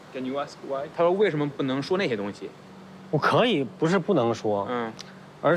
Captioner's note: speaking in foreign language